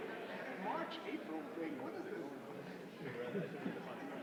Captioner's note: indistinguishable chatter